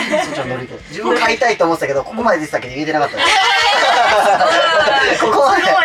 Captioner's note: laughs